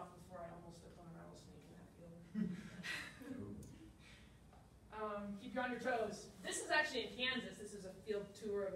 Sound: laughter

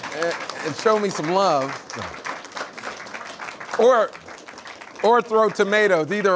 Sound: audience laughing and applauding; audience applauds

